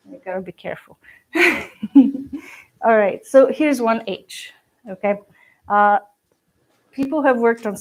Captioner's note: laughs